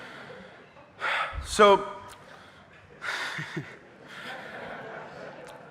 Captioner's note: laughs; audience laughing